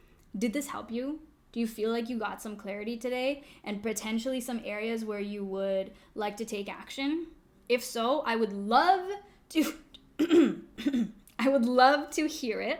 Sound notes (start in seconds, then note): 10.1 cough